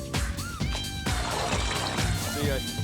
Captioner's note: liquid gurgles